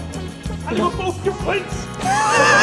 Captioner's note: Scouse / Liverpool Accent